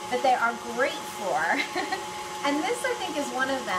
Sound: laughs

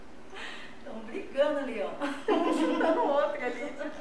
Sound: laughs

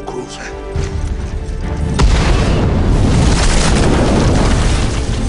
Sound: explosion

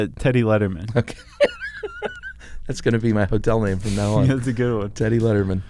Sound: laughs

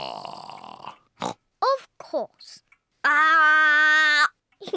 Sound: oinks

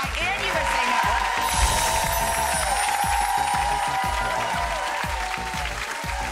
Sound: audience applause; upbeat synth music

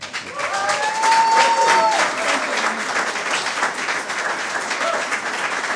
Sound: audience cheers and applause

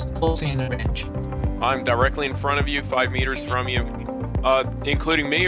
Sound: on the radio

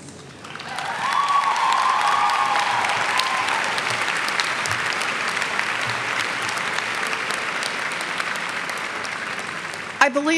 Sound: cheers and clapping

